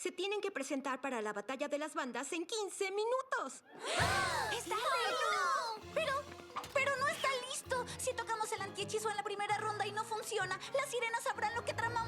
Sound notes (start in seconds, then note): 3.7 gasps all around; 3.7 panicked chatter